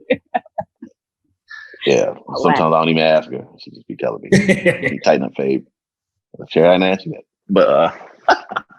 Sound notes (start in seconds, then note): 4.3 laughs